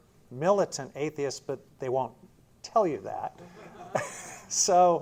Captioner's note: laughter